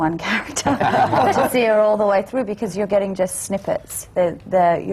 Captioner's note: laughter